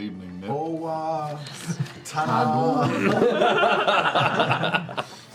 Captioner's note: laughter